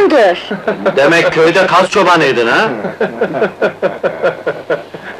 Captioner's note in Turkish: Çevreden gülüşmeler